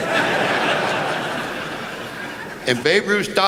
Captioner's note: laughter